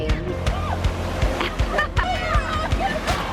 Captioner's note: chuckles; children whoop